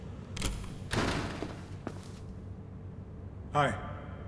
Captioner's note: door slamming; footsteps